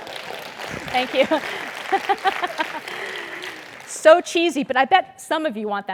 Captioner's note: applause; laugh